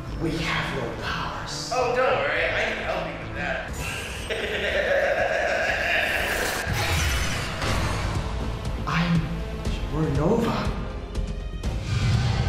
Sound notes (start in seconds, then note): 3.7 maniacal laugh